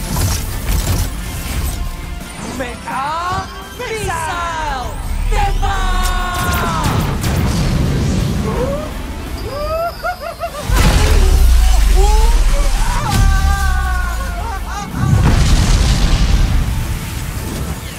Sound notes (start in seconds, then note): 6.0 missile roaring; 9.2 squees, whimpering; 13.1 screaming happily